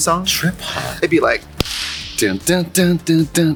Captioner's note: claps